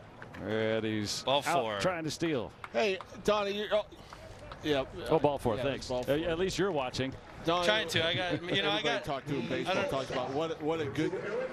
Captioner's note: laughing